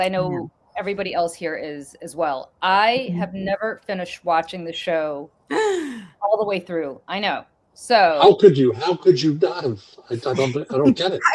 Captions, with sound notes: as I know everybody else here is as well. I have never finished watching the show (gasp) all the way through. I know. How could you? How could you not have? I don't I don't get it.